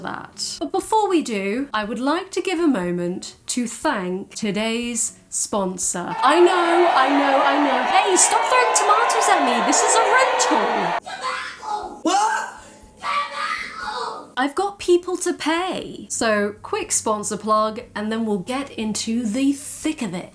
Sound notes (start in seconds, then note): 6.1 angry crowd noises; 13.0 little girl screaming